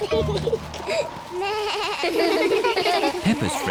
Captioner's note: both giggle; suzy bleats; all laugh